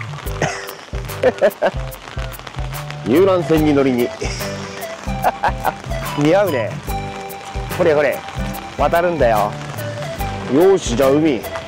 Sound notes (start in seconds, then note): 1.2 laughs; 4.2 laughs